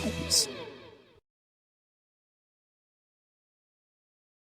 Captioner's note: audience laughing